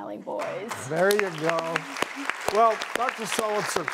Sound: audience applauds

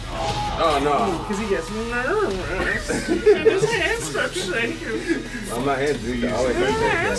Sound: laugh

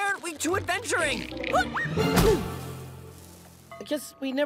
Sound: gasps

